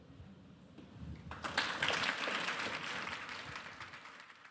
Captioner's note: applause